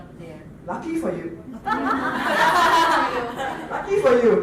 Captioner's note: laughter